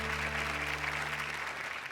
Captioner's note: applause